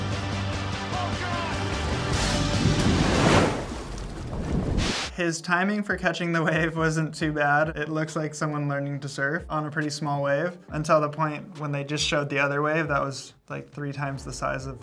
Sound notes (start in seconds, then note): 2.3 water splashing